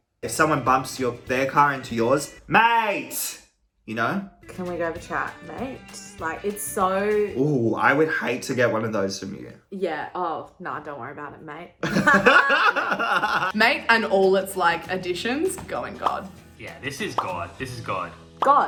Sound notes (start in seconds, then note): 11.8 laughing